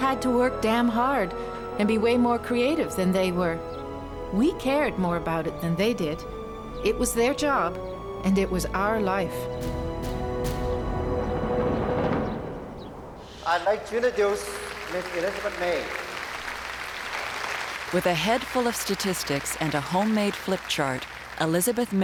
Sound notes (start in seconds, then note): 13.9 applause